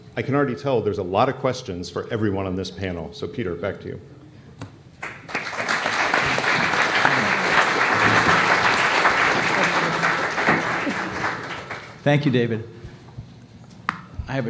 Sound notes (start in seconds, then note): 5.0 applause